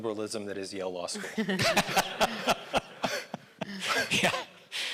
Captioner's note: audience laughing